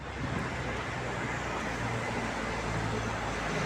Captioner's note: loud traffic